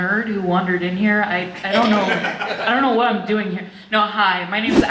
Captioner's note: audience laughter